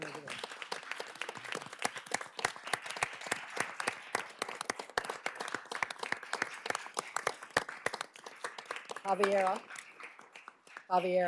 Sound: applause

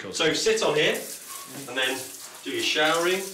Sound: water flowing

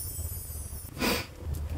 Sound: sniff

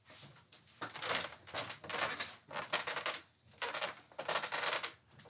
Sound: rocking chair creaking

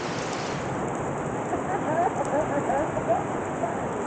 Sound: laughing

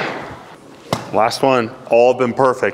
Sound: ball thuds; golf club thuds

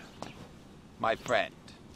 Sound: footsteps

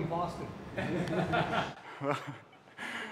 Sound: laughter

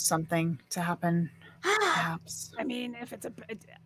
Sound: gasps

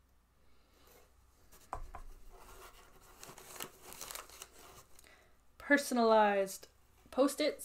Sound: paper shuffling

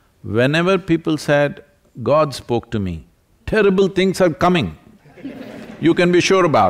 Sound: laughter

